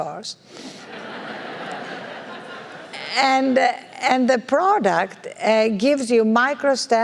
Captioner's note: laugh